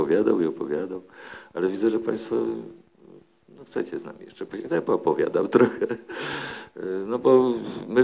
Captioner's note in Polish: śmiech